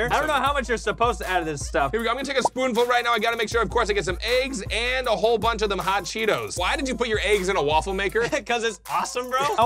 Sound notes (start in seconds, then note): 3.2 bubble popping